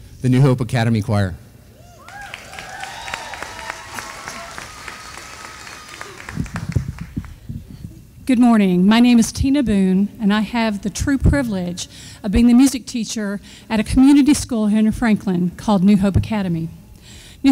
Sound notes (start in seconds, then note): 2.0 audience applauding